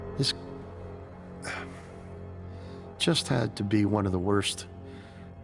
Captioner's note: sighing